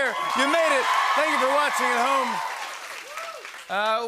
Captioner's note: cheers and applause